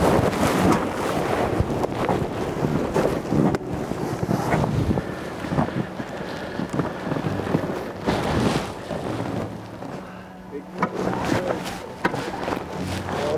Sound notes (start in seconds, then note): 0.2 grass crunching; 4.8 boat squeaking and rustling